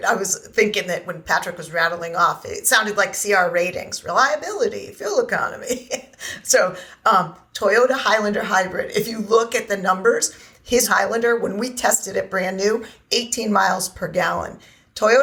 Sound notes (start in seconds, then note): 5.6 laughing